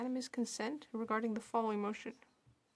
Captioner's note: speaking French